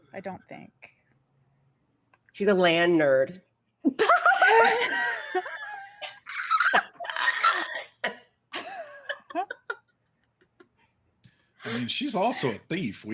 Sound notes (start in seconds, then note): 3.9 laughing